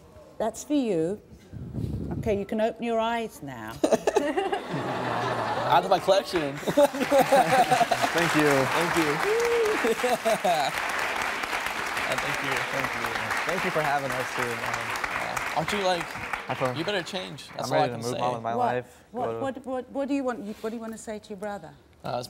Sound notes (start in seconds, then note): 3.8 laughs; 6.2 audience applauding